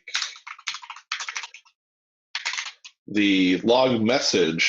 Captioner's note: keyboard keys clanking